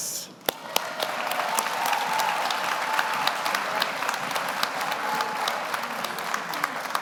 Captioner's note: audience applauds; audience cheers